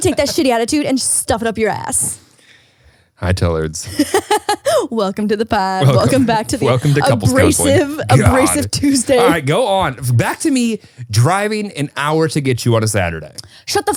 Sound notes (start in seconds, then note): 0.0 laughs; 3.8 laughs